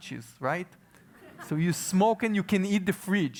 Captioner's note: laugh